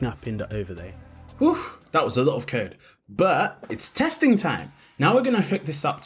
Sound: sighs

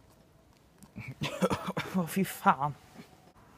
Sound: cough

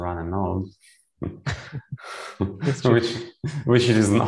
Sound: laughter

